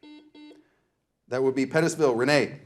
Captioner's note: buzzer buzzing